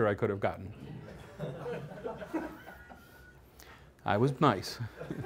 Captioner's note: laughter